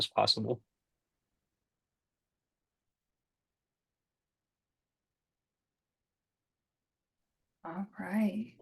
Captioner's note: silence